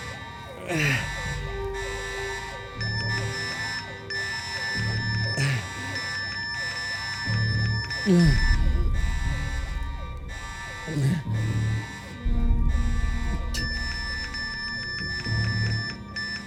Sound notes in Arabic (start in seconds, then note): 2.9 صفير vpn